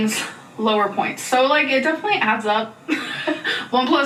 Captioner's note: chuckles